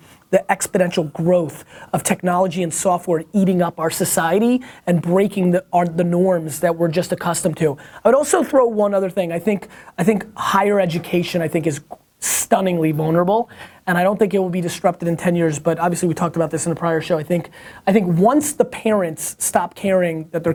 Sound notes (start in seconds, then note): none